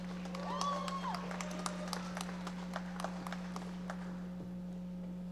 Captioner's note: audience applauding